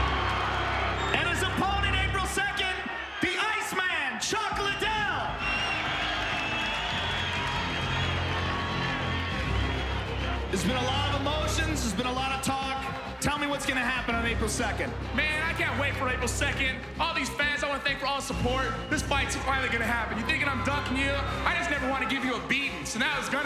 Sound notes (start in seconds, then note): 5.1 cheering